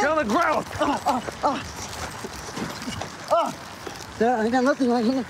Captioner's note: grurunts